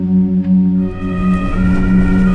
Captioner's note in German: Sirene